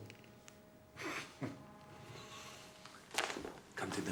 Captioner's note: Jean laughs